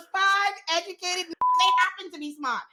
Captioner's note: beep